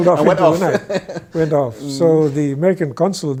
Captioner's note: guy laughs; laughs